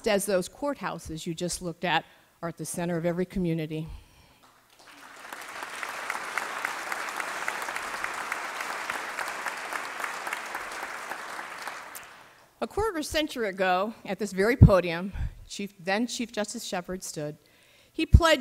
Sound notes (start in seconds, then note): 4.4 applause